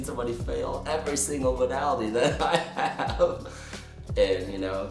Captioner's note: laughter